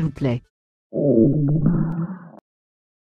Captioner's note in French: ventres qui gargouillent